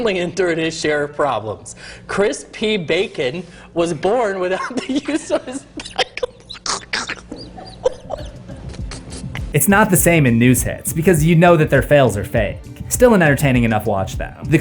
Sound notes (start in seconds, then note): 7.7 weezing; 8.8 laughing